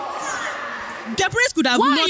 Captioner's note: audience mumbling